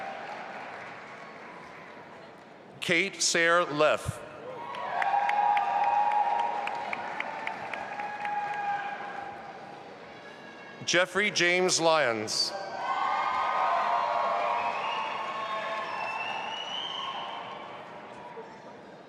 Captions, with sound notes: Kate Sayre Leff. (audience applauding) Jeffrey James Lyons. (audience applauding and cheering)